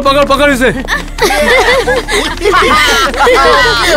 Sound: laughs

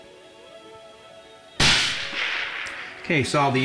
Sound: rifle cracks

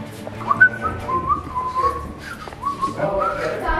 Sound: Lime whistles

